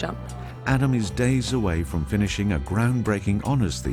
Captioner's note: voiceover